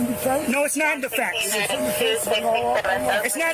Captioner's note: radio chatter